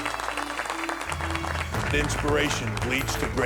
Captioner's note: applause